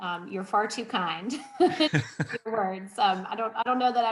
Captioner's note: laughs; laughing